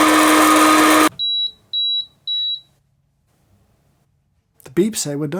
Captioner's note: roaster whooshing; roaster beeping